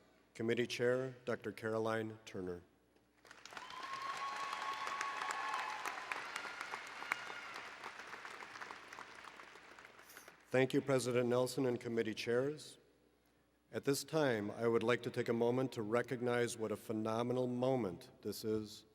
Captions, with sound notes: Committee Chair, Dr. Caroline Turner. [ Applause ] Thank you President Nelsen and Committee Chairs. At this time, I would like to take a moment to recognize what a phenomenal moment this is